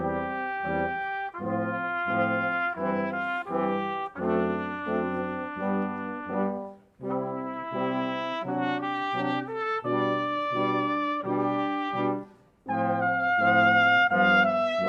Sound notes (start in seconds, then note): none